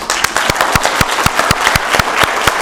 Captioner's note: applause